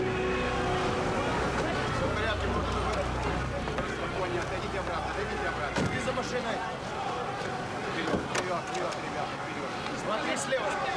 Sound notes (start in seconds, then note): 2.5 speaking russian